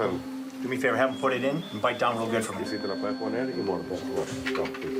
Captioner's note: speaking Spanish; speaking Spanish